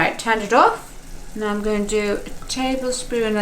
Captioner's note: sizzling